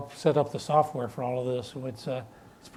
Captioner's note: none